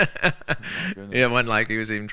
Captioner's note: laughing